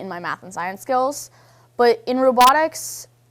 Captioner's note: none